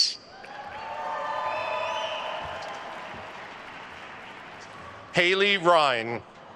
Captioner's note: attendees cheering and applauding